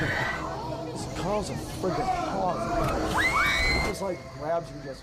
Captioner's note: screams